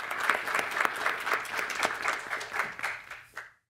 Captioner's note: audience applauds